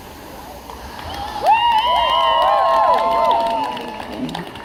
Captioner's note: crowd cheering